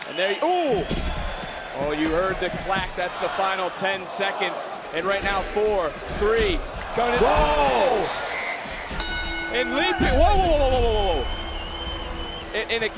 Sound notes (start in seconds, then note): 5.1 crowd counts down; 9.0 bell rings